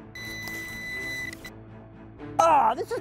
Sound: beeping

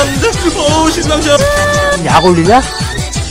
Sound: sob

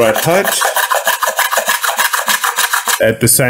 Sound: plane scratches

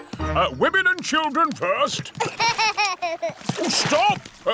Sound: laughs

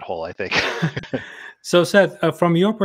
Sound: laughs

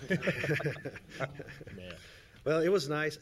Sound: laughing

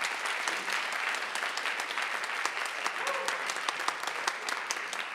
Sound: audience applauding

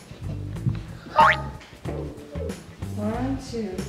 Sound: boing

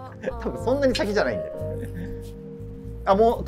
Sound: laughing

